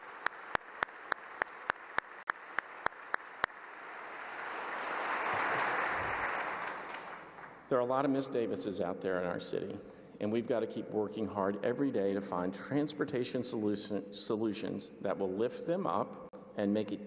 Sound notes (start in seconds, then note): 3.9 applause